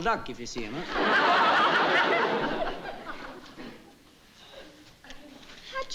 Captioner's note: laughter